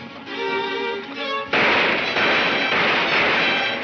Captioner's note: gunshots banging